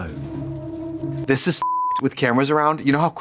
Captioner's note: beep